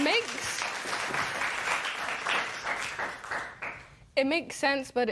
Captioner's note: applause